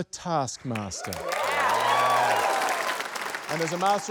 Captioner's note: cheering, applause